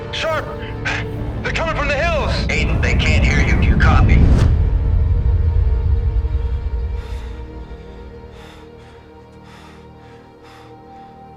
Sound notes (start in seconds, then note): 4.5 ominous music; 8.3 Aiden panting